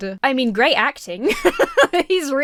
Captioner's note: laughs